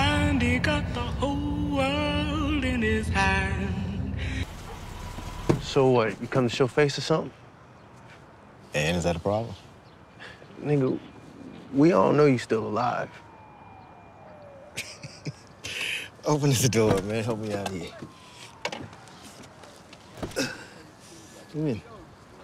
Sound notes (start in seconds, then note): 14.7 Douda laughing; 19.8 Douda grunting